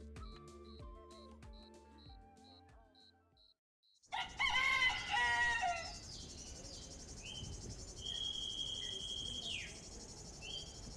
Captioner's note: rooster crows, wildlife sounds